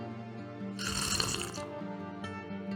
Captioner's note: sluuuurp